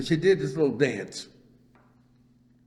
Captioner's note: laughs